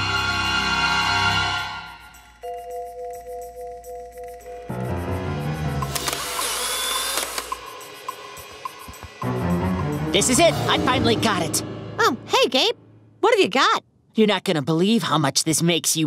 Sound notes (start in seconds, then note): 5.8 camera clicking